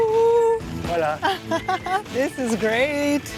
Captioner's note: in Portuguese